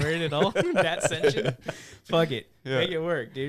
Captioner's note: laughing